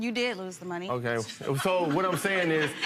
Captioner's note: crowd laughing